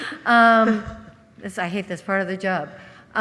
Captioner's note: laughter